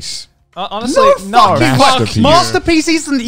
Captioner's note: murmurs